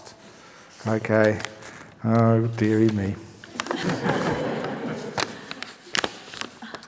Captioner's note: laughter